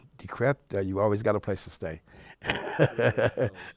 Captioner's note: laughs